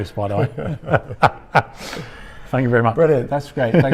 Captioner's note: laughing